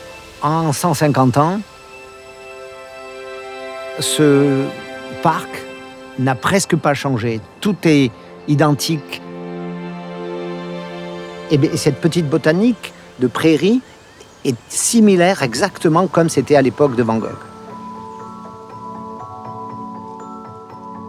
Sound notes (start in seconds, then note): 0.2 speaking in foreign language; 11.7 speaking in foreign language; 17.5 light uplifting music